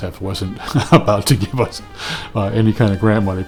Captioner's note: laughs